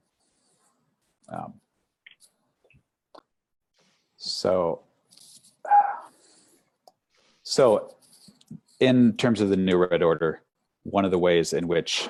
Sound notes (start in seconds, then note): 2.3 breathing